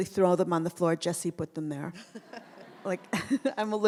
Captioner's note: anna and audience laughs